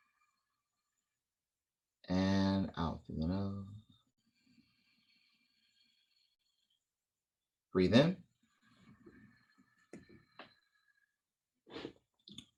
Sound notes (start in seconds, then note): 5.0 exhale; 9.0 inhale